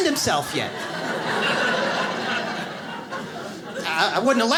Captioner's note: audience laughs